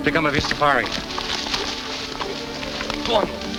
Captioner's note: grass rustles